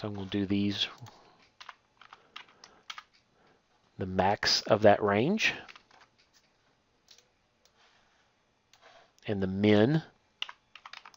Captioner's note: typing